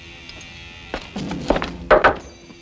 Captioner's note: ominous music; taps